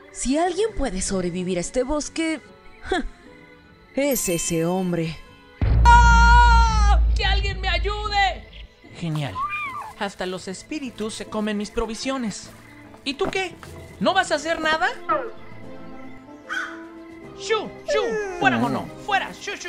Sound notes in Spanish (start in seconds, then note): 5.8 Grito; 14.9 sonidos de conejito